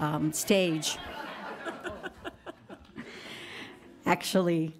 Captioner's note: audience laughs